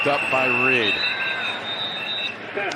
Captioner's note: whistle blowing